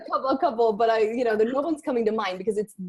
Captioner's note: laughs